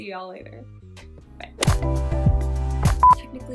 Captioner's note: beep